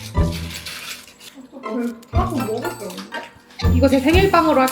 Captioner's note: chungcheong-do way of speaking